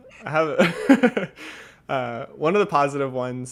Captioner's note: laughing